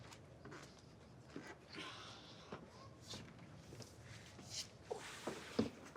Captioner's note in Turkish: Ayak sesi